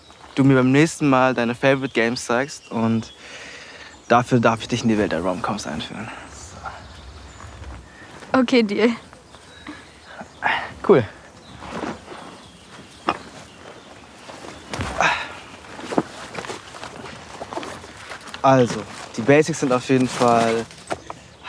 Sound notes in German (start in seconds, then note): 9.4 Seufzen; 14.8 Seufzen